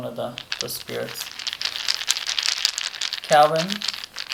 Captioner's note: dice rolling